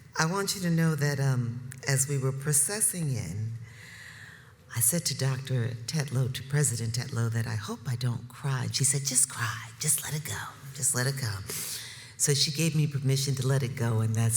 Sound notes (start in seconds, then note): none